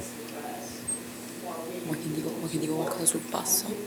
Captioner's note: speaking italian